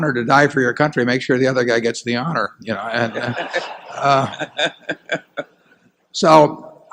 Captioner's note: laughter